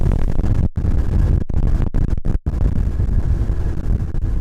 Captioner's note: wind blowing